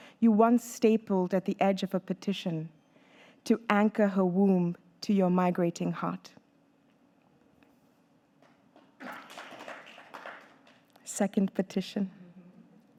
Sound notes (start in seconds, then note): 8.7 audience clapping